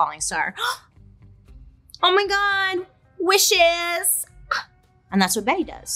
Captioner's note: gasps